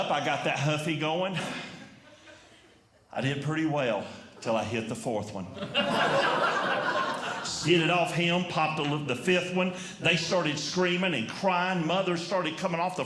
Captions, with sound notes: I got that Huffy going. I did pretty well until I hit the fourth one. [Audience Laughing] Skidded it off him. Popped the fifth one. They started screaming and crying. Mothers started coming off